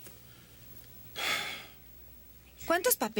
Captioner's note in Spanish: suspira